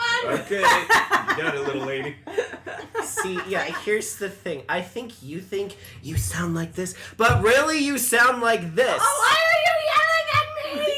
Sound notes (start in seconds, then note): 6.2 whispers